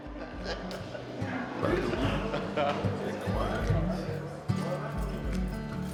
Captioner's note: group laughs and chats indistinctly